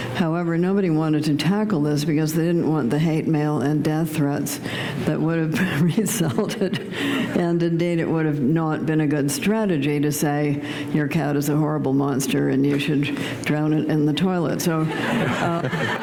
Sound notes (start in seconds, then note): 6.5 chuckle; 14.8 laughter